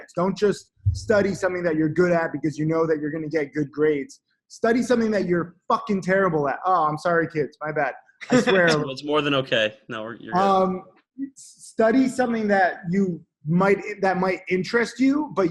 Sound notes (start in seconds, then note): 8.2 laughs